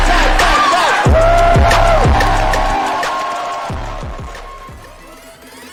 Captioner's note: cheering; upbeat music